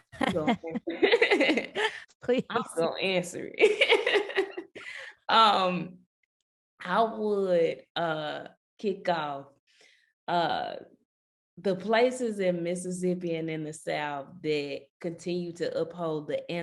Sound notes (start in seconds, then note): 0.0 laughing; 5.1 laughing